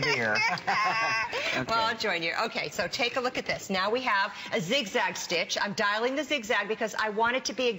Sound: laughter

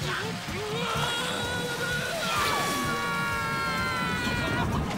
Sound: grunting; screaming

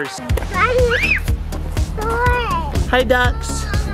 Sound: screams

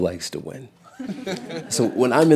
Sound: laughter

